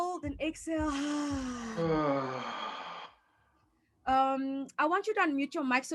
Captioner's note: exhaling audibly